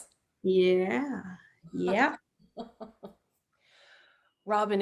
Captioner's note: laughs